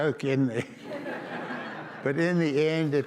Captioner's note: audience laughs